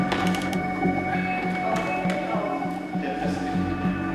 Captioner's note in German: Dumpfe Hintergrundgeräusche, Stimmen; Angespannte Musik